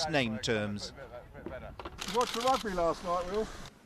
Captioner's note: voiceover